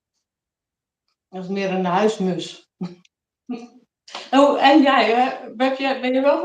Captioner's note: laughs